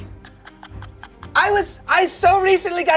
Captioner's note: laughs